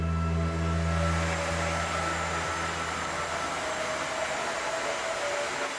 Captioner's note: ice resurfacer whirring